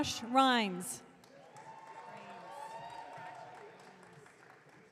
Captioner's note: audience cheering